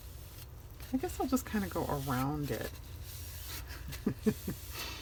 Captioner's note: laughs